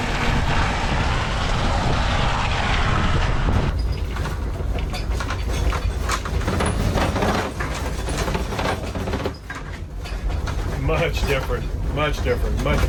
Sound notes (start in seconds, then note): 4.0 RV rattling